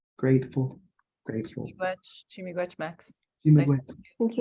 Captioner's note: speaks Cree